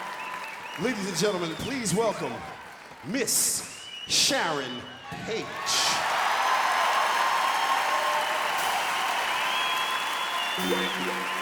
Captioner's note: applause; cheering